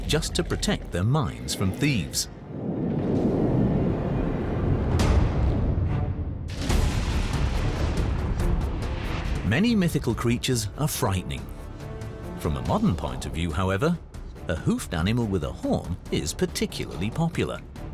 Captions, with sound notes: just to protect their mines from thieves. [roars] Many mythical creatures are frightening. From a modern point of view, however, a hoofed animal with a horn is particularly popular.